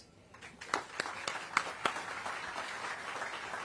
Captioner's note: applause